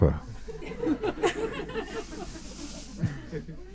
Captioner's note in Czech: smích